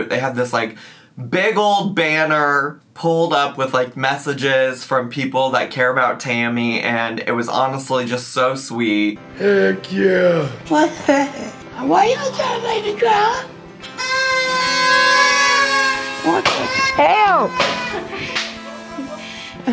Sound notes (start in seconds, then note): 13.7 party horns